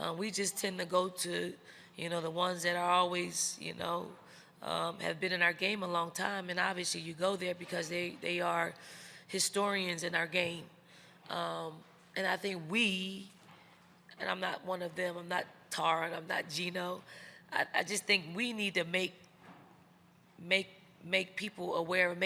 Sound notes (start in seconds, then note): none